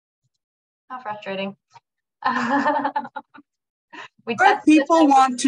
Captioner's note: laughs